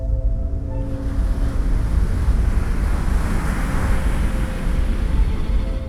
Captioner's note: piano note; waves crash over shingle